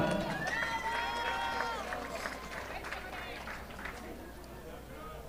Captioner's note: audience applauding